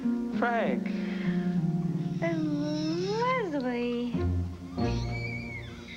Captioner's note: baby cries